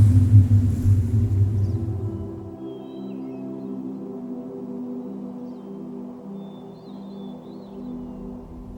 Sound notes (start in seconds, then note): 2.0 birds chirping; 2.0 mellow music